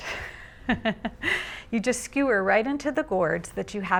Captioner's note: laughing